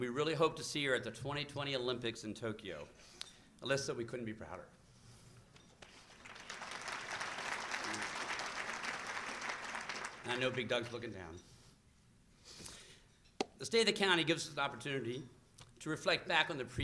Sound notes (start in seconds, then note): 5.6 applause